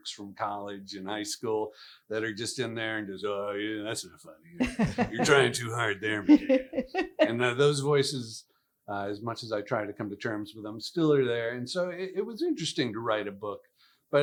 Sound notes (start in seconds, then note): 4.6 laughs